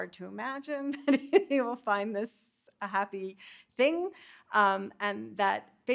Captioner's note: chuckling